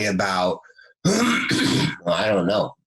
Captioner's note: clears throat